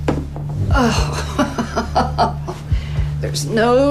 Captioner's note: laughing